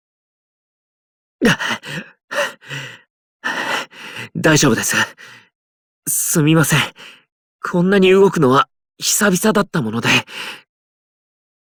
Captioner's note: panting